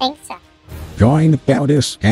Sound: voiceover

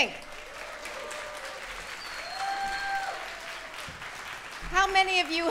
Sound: audience applauds; audience cheers

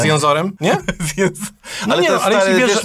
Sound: laughter

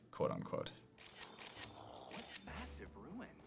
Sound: photo snapping

